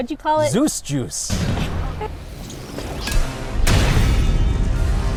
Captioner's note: sound effects - lightning crackling and metal clicking